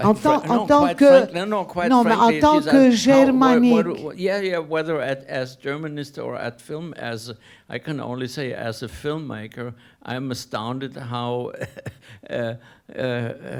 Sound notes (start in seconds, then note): 1.3 speaking a foreign language; 12.4 laughs